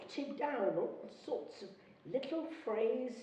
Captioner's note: none